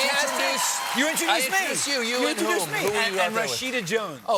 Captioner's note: cheers and applause